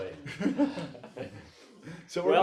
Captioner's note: both laugh